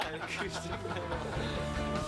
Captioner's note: laughter